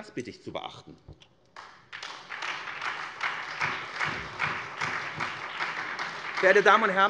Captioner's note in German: Beifall SPD und Freie Demokraten